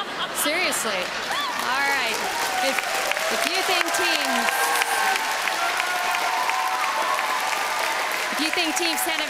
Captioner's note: applause